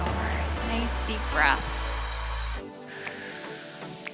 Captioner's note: exhales